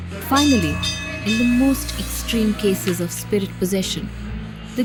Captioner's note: bell chimes